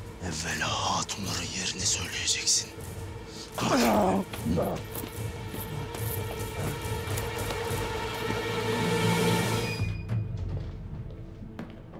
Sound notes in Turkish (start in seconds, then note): 3.4 İnleme sesi; 9.7 Kapı açılma sesi